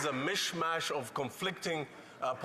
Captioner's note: applause